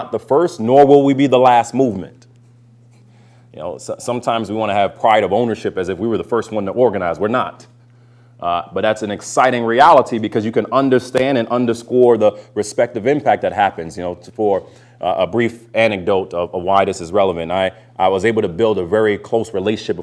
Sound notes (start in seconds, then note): none